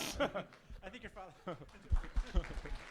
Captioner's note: snorts and laughs; laughs; audience applauds